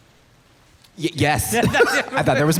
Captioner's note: laughs